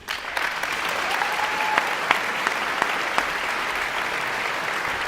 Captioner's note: guests cheering and applauding